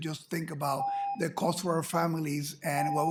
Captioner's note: ringing bell